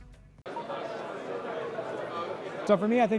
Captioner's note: crowd talking